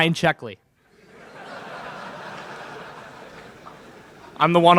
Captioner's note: laughter in crowd